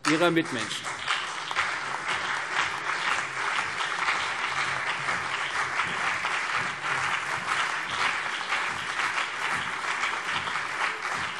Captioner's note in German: Beifall CDU und BÜNDNIS 90/DIE GRÜNEN